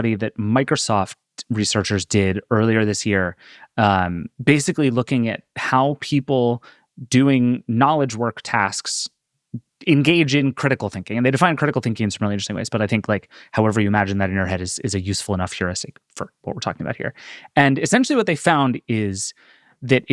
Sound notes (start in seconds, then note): none